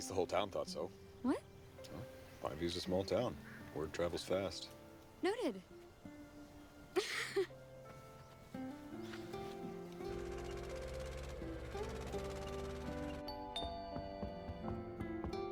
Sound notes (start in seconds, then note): 6.9 laughs; 13.3 doorbell rings